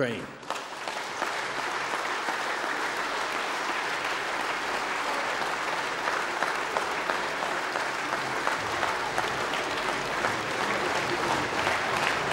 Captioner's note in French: Applaudissements